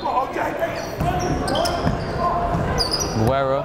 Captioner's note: whistle blowing; yelling